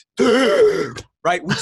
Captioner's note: gasps dramatically